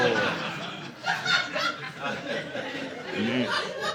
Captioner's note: audience laughing